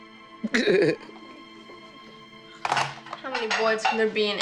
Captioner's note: gentle music; Lilly sobbing